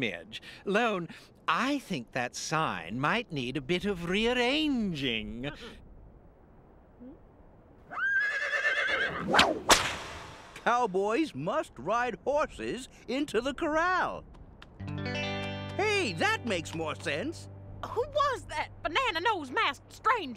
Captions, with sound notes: Lone, I think that sign might need a bit of rearranging. ( Hiho whinnies ) ( whip cracks ) Hey, that makes more sense. Who was that banana- nose-masked stranger?